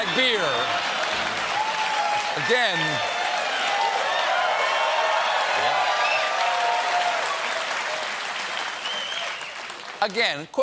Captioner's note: cheers and applause